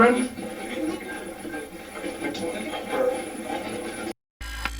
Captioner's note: static playback transmitting; static fizzing